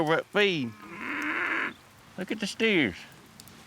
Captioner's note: mooing